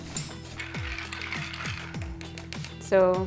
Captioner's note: stirring